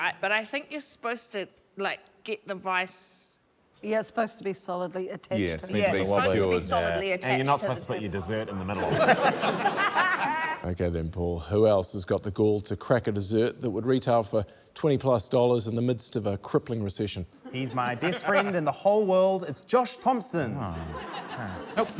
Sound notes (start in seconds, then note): 8.7 laughter